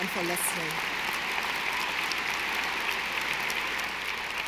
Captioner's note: audience applauding